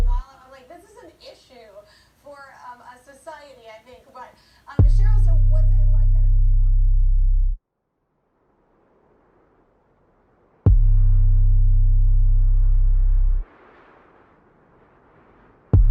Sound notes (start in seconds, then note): 8.4 strong wind blows; 10.7 dark music